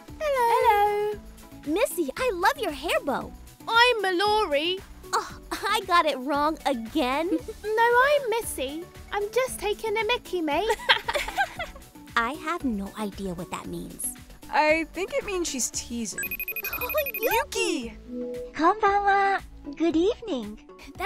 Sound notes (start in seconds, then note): 10.8 laughing; 16.2 video call ringing